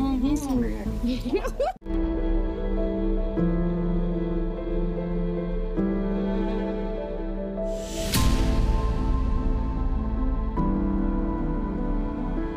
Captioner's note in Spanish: risas